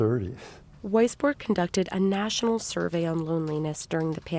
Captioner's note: voice-over